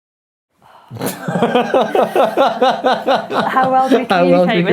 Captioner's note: laughing